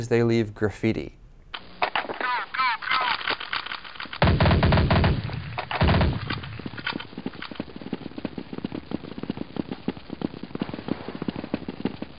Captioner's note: audio from game